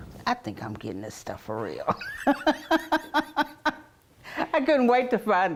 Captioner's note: laughs